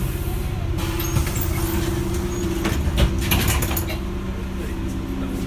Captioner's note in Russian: открытие дверей